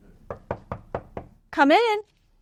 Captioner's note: knocking on door